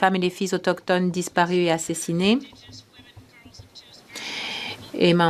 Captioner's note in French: voix de l'interprète